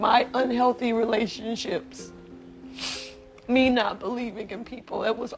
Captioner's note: sniffles